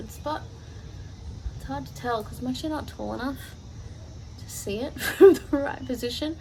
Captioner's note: laughs